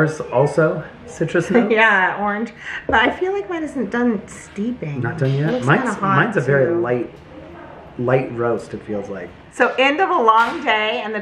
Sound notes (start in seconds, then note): 2.2 chuckles